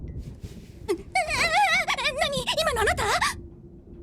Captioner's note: wails